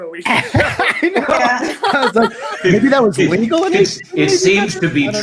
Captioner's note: laughs